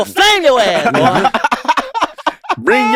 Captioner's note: laughs